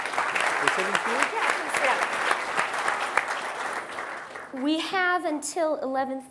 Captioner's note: applause